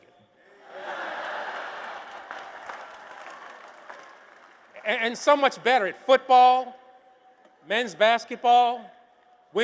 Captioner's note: applause